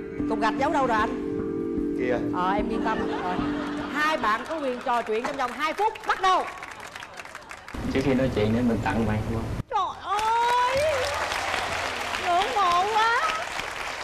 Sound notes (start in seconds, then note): 2.8 laughters; 9.9 claps and applauses